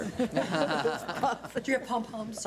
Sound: board laughs

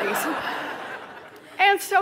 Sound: laughter

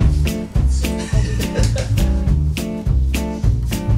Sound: laughing

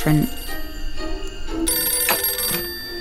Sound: phone ringing in the background

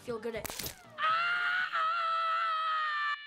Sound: screaming

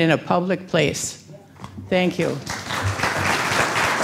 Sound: applause

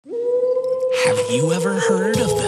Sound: woof howling

